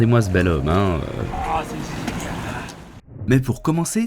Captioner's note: grumpy french sound